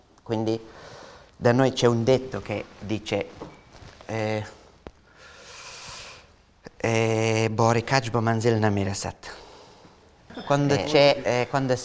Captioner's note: in Afghan